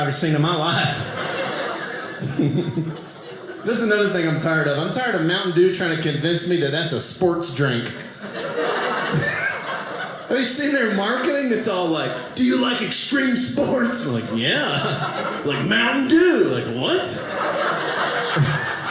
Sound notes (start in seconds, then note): 0.8 audience laughing